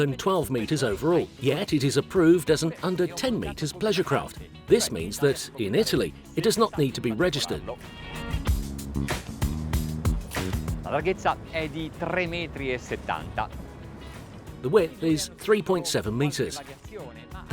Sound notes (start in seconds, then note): 8.5 percussion music; 11.0 speaking foreign language